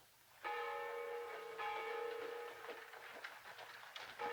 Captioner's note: bell tolls